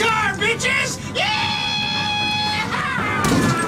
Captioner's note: screams